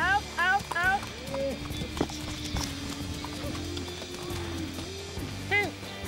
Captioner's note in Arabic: ضربات حوافر